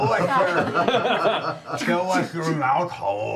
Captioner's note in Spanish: risas